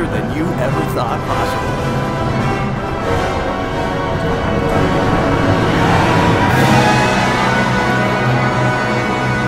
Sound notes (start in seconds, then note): 1.9 music intensifies; 5.1 group cheering